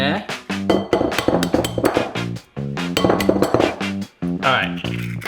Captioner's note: egg clanging; jazz music